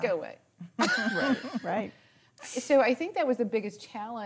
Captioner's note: laughing